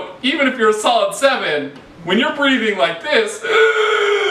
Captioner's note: more Gasping Sounds